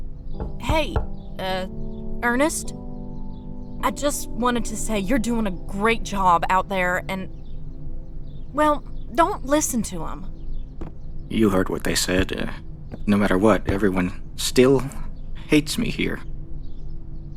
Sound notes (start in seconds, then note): 0.4 door knocks; 12.9 andrea's footsteps walk into room